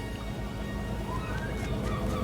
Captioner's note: seagulls squawk